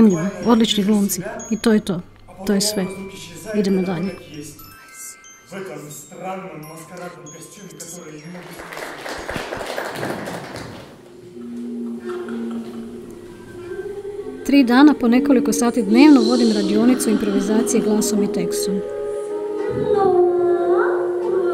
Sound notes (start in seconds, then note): 5.5 speaking in Russian; 8.3 applause